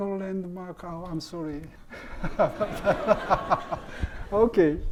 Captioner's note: laughs; audience laughing